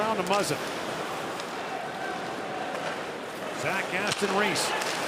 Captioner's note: shouting